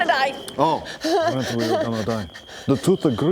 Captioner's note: cries